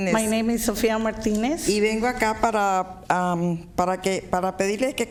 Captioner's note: speaking spanish